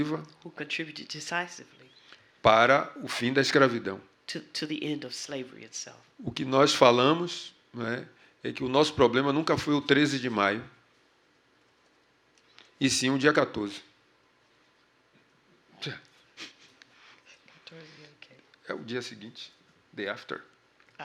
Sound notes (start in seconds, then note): 3.0 speaking portuguese; 11.8 speaking portuguese